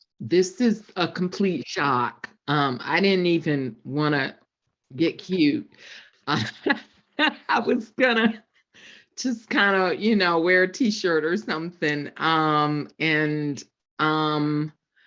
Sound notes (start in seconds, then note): 6.3 laughs